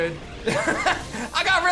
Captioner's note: laughs